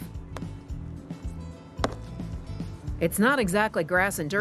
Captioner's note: mallet hitting